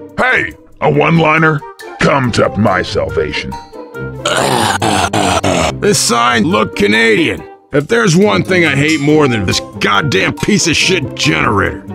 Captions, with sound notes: Hey! A oneliner come to my salvation *Francis makeing weird noises* The sign look canadian It theres one thing i hate more than this god damn piece of shit generator.